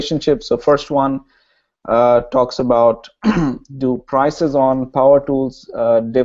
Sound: cough

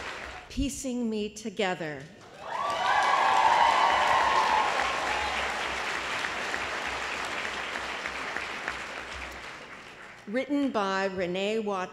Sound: applause

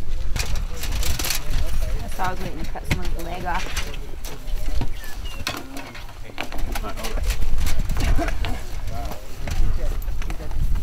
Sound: clanking

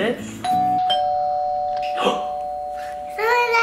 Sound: door bell rings

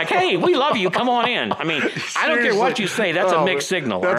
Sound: laughs

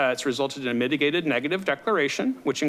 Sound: none

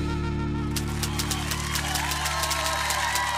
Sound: cheering and applause

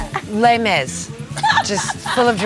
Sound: laugh

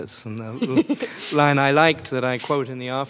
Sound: laughing

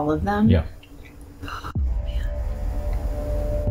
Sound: quietly

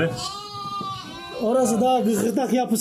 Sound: lamb sheep bleating sounds meeee meee meee

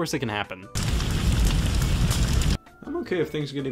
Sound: sounds of fire

